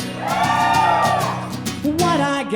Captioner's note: audience cheering